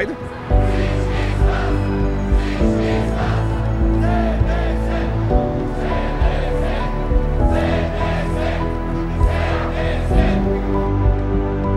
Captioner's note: Chanting: Everyone with us. UDF, UDF, UDF